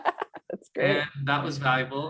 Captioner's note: laugh